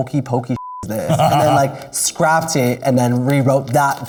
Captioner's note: laughs